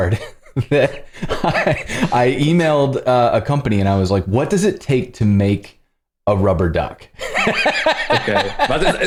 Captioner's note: laughter